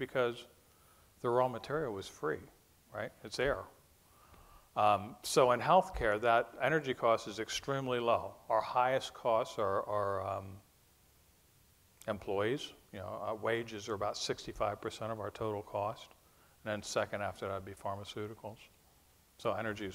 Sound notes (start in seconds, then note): none